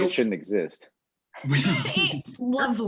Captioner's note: laughing